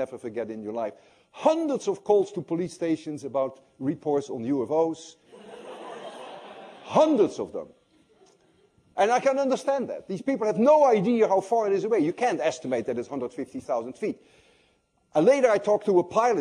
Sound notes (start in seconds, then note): 5.3 laughter